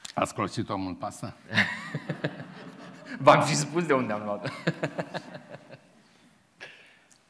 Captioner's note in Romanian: Râsete